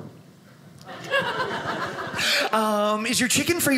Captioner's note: audience laughing